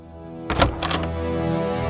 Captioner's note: doors rattling